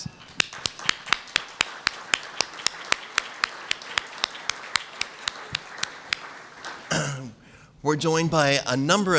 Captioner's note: applause